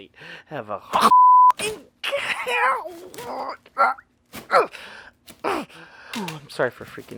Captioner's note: shrieking in pain